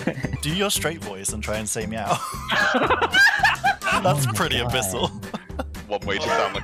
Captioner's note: laughter; laughter